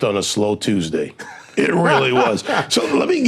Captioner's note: laughing